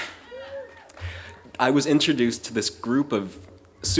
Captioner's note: cheering